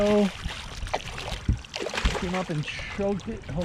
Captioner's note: fish splashing